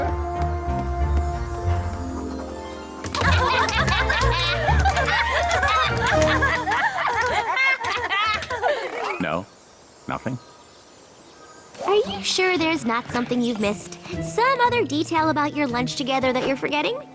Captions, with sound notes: [laughter] No? Nothing? Are you sure there's not something you've missed? Some other detail about your lunch together that you're forgetting?